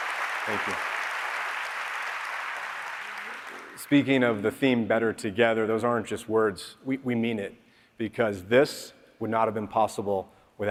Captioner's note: applause